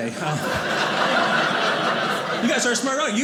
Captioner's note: audience laughing